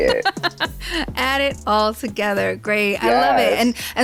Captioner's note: laughs